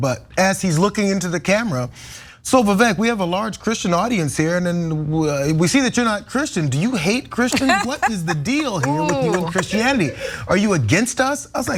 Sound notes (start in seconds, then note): 7.5 laugh